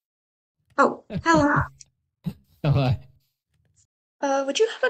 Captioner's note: laughs